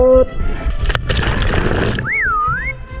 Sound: water splashing

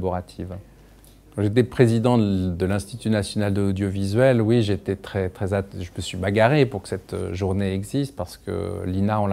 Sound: INA, in French

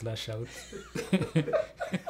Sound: laughter

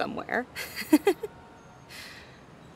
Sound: slight chuckle

